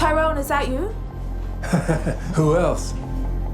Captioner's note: chuckles